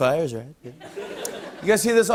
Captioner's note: light laughter; normal voice